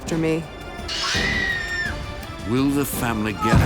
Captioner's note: screams